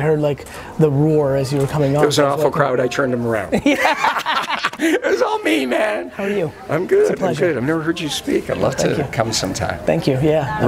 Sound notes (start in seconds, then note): 3.5 laughing